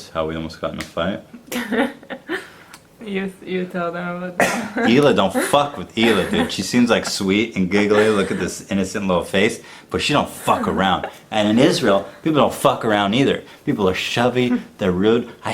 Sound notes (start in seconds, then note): 1.4 laughs; 4.3 coughs